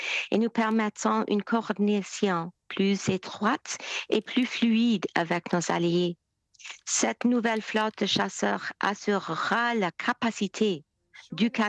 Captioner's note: speaking French